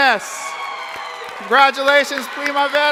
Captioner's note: crowd applauding